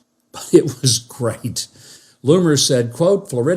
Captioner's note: laughing